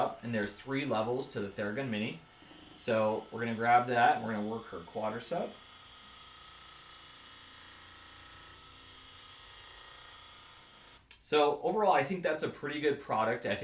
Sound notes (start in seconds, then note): 6.2 Theragun gently vibrating